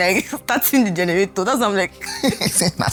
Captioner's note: laughs; laughs